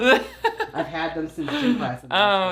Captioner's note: laughs